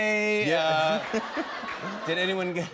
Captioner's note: laughter